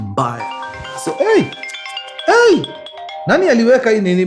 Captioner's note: phone ringing